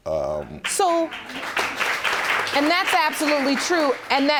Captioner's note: audience applauds